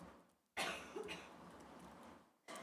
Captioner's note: cough